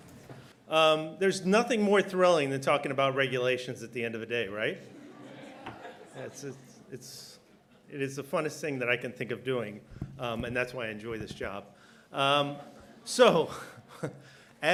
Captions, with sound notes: DIRECTOR, OFFICE OF THE PROCUREMENT EXECUTIVE: There's nothing more thrilling than talking about regulations at the end of a day, right? (laughter) It's...it's...it is the funniest thing that I can think of doing and that's why I enjoy this job. (laughter)